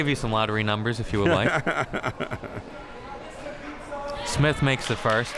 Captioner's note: laughs